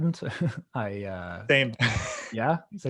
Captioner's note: chuckling